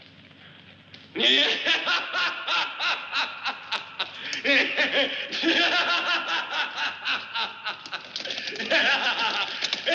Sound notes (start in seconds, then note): 1.1 laughs maniacally